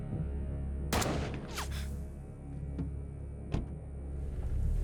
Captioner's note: gun booming